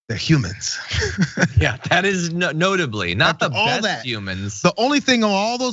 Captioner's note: laugh